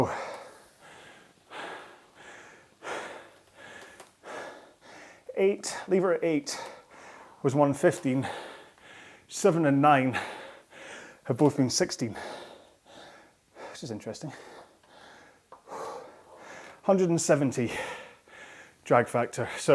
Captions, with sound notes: (breathing heavily) Eight, lever eight was 115. Seven and nine have both been 16. Which is interesting. 170 drag factor.